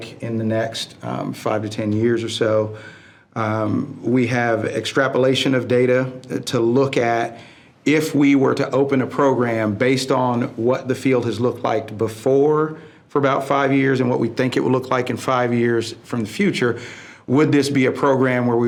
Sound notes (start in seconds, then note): none